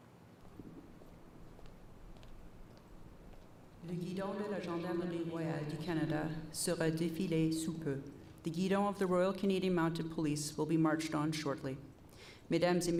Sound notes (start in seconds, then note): 4.4 messaging in French